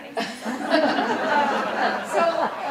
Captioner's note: audience laughing